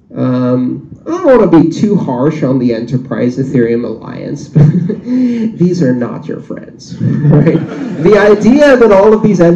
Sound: laughter

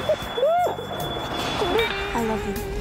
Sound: sobbing

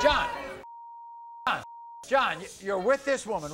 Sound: beep

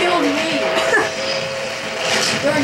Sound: laughs

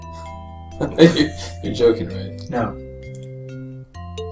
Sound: chuckling

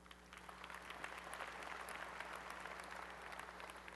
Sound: applause

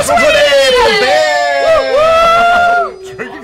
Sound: cheering; laughs

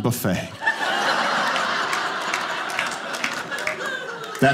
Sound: audience laughing

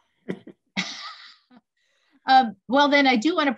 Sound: laughter

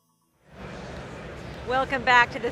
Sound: crowd chattering

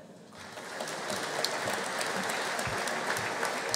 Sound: audience applauding

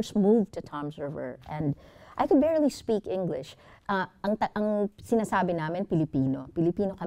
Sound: speaks foreign language

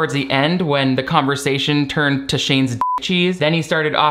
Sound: beep

